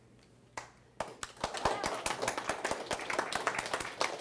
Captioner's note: applause